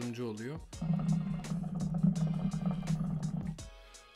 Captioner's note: hookah voice